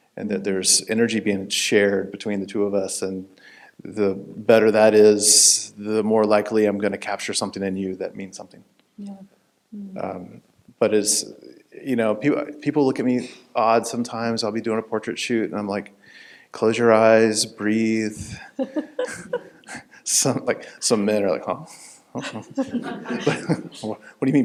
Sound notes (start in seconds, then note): 18.3 chuckling